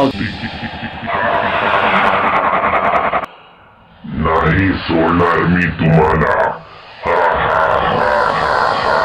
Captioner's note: ghostly voice